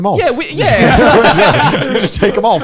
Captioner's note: laughing